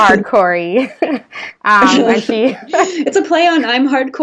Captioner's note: both laughing